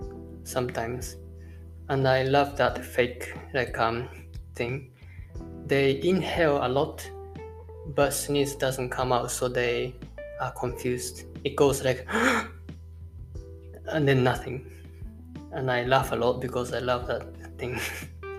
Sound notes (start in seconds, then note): 12.0 inhale